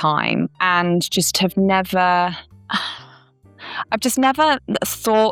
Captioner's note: sigh